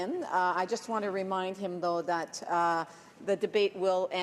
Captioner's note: speaking French